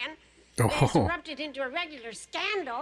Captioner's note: chuckling